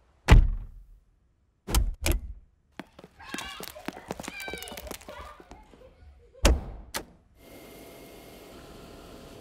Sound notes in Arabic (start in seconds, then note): 2.8 أطفال يصيحون ويضحكون; 7.5 صوت مكنسة Dyson V6 أثناء التشغيل